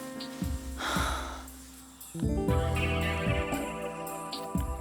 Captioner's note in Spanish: Fernanda exhala